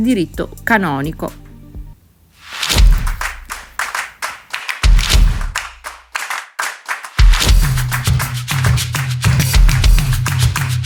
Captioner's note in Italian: Applauso